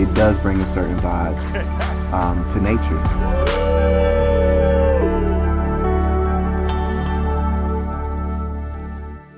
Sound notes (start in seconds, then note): 3.2 people cheering; 5.4 uplifting music